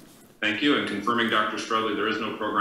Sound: murmurs

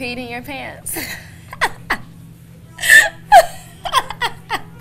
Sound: woman laughing

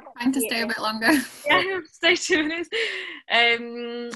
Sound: laughing

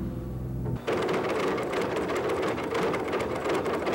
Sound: boom rattling

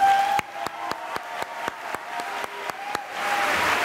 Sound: cheering and applause

